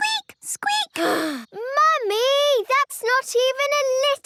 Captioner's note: sighs